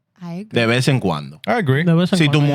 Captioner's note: speaking Spanish